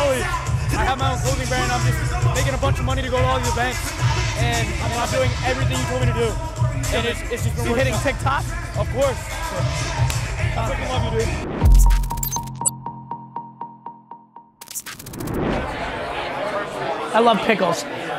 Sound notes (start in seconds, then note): 11.7 graphics whirring; 14.6 screen whooshes